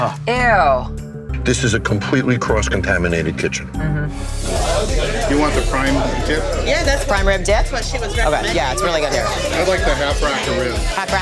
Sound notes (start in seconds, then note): 4.2 chatter